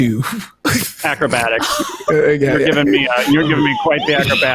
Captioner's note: laughing